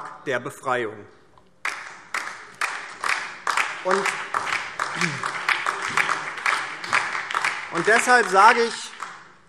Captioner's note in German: Beifall DIE LINKE, vereinzelt CDU, BÜNDNIS 90/DIE GRÜNEN und SPD